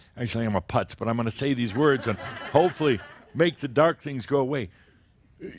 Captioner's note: laughter